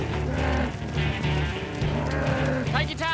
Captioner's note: calf mooing